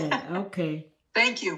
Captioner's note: laughing